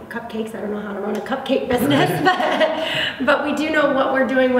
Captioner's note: laughs